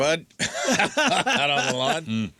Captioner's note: laughing